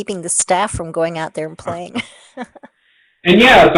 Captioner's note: laughs